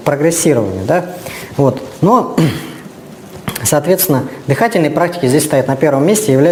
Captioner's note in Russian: откашливается